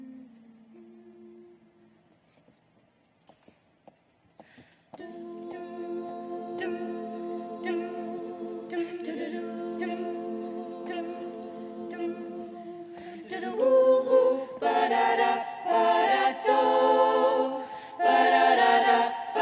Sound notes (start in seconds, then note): 8.5 humming; 14.3 singing